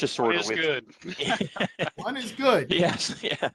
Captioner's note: laughter